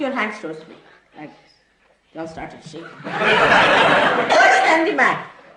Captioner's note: laughter